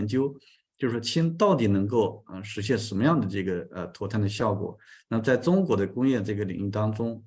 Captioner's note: continues to speak in Chinese